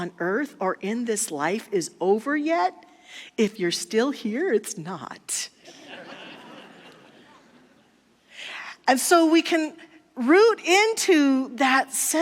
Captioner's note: audience laughter